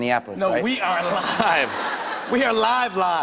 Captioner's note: laughter